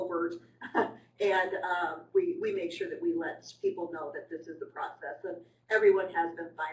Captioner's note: laugh